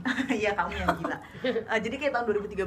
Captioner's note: laughs